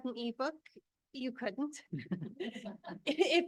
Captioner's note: board members laugh